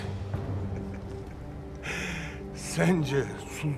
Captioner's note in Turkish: Gülme sesi